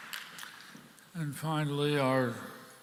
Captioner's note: applause